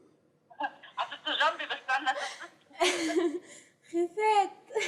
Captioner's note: non-english speech